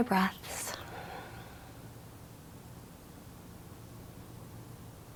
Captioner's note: speaks in foreign language; breathing deeply